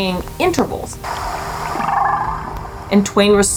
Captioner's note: whale vocalizations